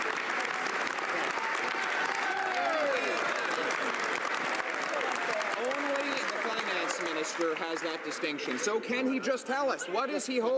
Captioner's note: some Applause